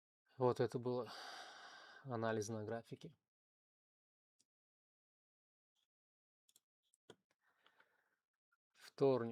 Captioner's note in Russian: вздыхает